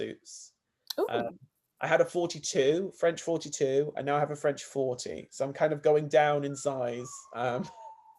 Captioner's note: laughs